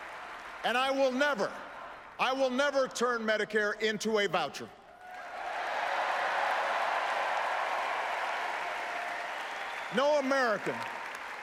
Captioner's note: applause